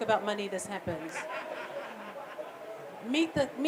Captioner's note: laughter